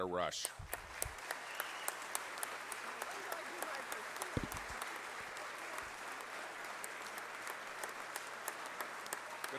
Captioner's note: applause